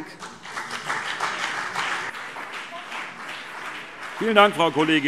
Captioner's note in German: Beifall BÜNDNIS 90/DIE GRÜNEN und CDU